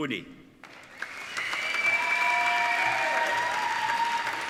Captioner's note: applauding